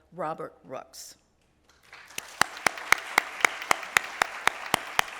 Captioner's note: applause